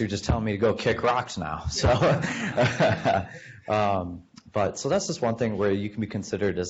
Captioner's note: laughs